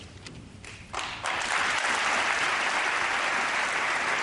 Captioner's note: applause